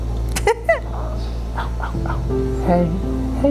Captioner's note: laughing